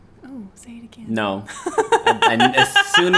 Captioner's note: laughs